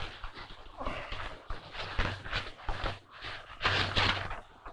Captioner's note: George exhaling; pages fluttering